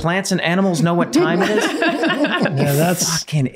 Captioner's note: everyone laughing